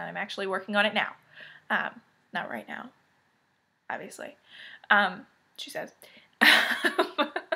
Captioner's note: giggles